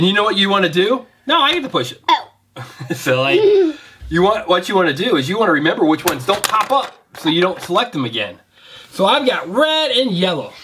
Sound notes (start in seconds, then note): 2.8 laughing